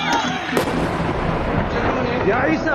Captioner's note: explosion